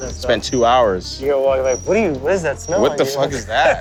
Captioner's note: laughs